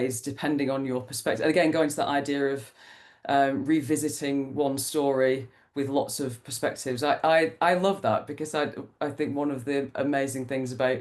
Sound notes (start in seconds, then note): none